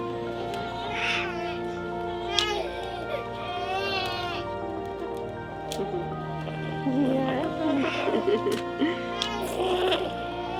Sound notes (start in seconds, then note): 0.5 crying; 6.9 subtle music